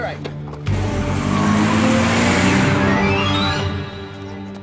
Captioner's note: tires squeal; dramatic music